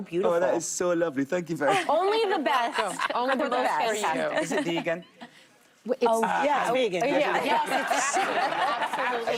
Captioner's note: applause